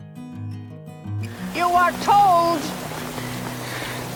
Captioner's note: voiceover